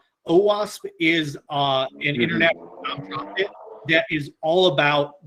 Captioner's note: feedback drowns out speaker